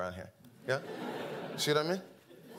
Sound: audience laughing

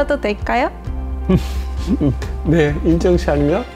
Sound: laughter

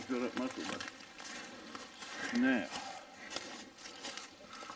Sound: leaves rustling

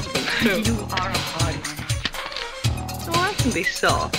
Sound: chuckles

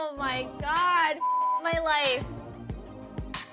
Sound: beep; upbeat music

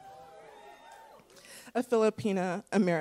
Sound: attendees cheering

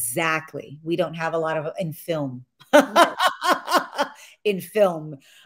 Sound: laughs

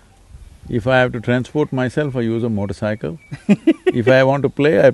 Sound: laughs

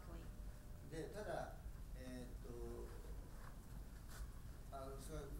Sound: speaking in foreign language

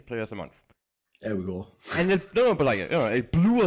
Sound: laughs

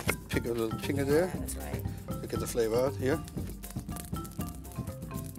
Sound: light sizzling

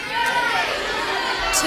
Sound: audience calling out

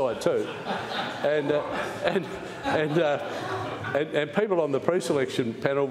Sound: laughter

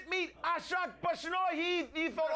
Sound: audience cheers

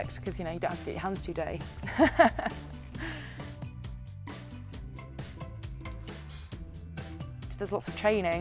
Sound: laughs

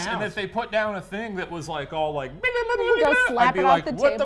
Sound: beeping

